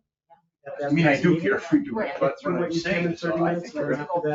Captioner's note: people chattering